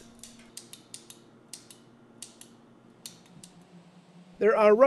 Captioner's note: counter clicking